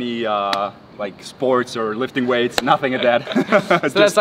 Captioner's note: laughs